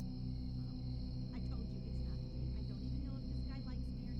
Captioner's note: insects chirping